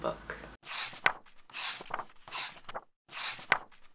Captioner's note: pages turning